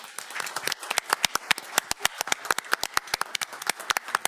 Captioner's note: board applauds